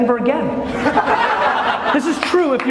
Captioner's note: laughter